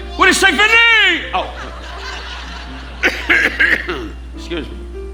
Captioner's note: coughing